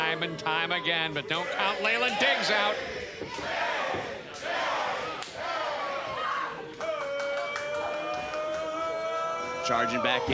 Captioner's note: crowd cheers